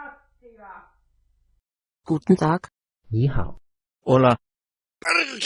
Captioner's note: German; Spanish